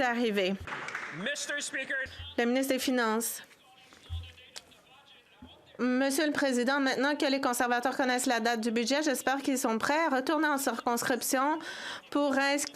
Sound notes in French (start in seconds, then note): 4.9 voix de l'interprète